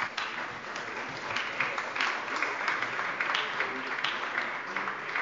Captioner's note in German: Beifall bei der SPD